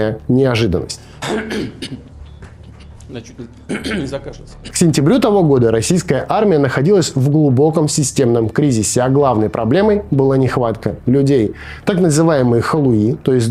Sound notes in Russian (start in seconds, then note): 3.6 откашливается